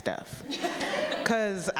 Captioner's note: audience laughing